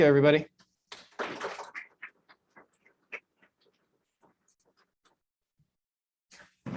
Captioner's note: clapping